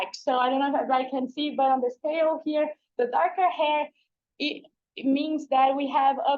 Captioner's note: none